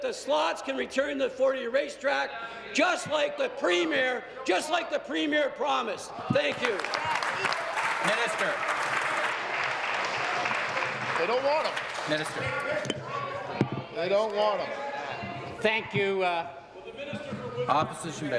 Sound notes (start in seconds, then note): 9.6 applause